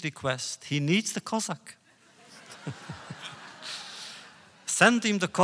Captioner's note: laughter